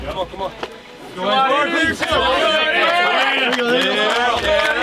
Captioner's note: cadets cheer